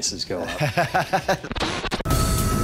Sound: laughs

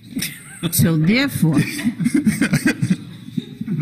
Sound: clerk laughing

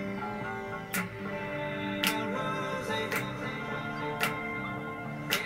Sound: snaps

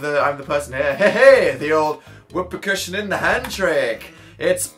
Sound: reads in chill, joking voice

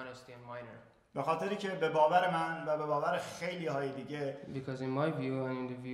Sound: speaking in farsi

